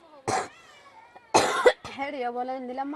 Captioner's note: coughs